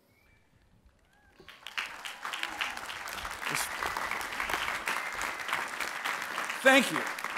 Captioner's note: applause and cheers